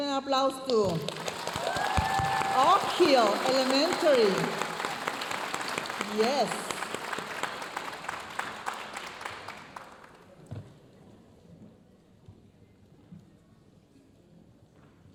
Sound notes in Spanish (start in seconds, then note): 1.1 aplausos y vítores de la audiencia; 2.6 hablando en inglés